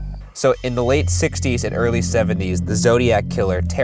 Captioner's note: voiceover